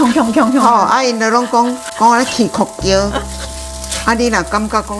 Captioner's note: clanging sound